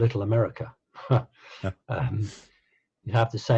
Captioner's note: laughing